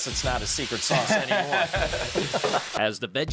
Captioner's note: laughing